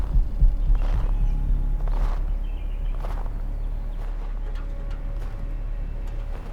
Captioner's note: snow crunching beneath footsteps; suspenseful music thumps